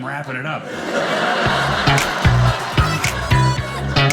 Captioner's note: audience laughing